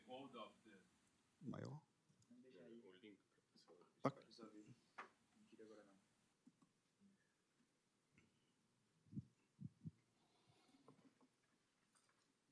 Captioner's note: non-english speech